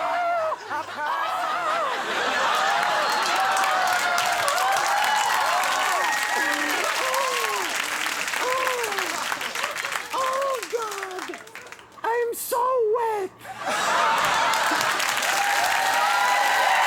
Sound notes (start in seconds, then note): 8.4 Conan laughs